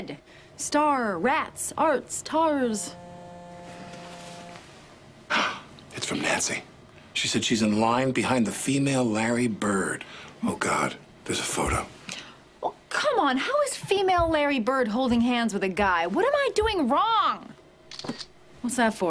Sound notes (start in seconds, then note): 2.7 buzz; 17.9 camera shutter clicks